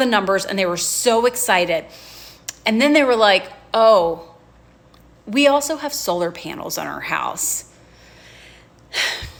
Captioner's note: sighs